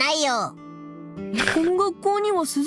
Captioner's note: snickers